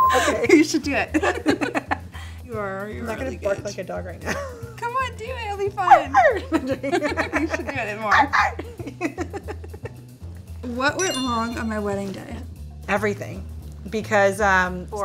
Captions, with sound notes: - Okay. You should do it. - You are. - I'm not gonna bark like a dog right now. - Come on. Do it'll be fun. [barks] You should do it more. What went wrong on my wedding day? - Everything.